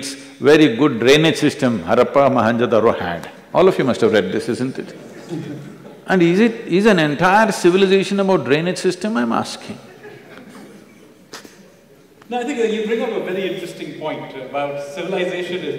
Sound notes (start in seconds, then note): 5.0 laughter; 9.6 few laugh